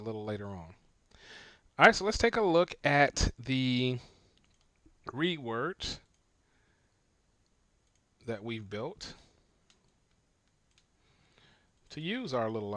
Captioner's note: silence